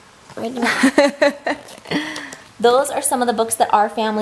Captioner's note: laughs